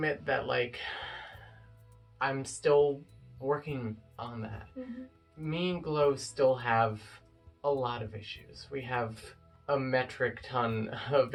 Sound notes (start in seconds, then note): 1.4 sigh